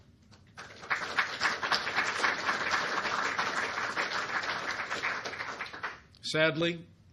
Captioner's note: applause